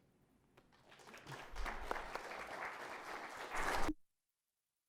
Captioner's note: applause